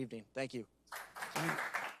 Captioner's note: audience applauding